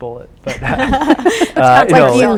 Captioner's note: laughing